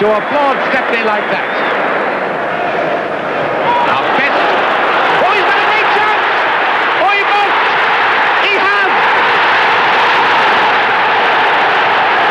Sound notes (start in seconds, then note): 6.5 crowd shouting; 10.0 crowd roaring